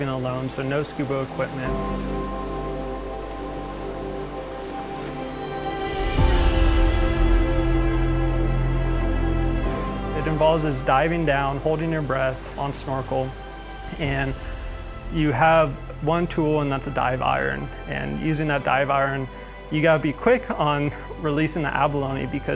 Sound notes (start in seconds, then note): 2.3 waves crashing and splashing water; 5.8 music swelling